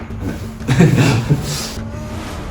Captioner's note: laughs